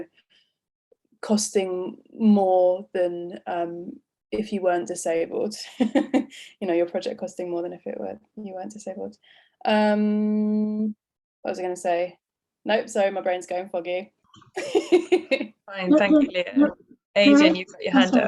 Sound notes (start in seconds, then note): 16.0 laughs